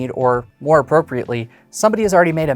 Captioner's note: none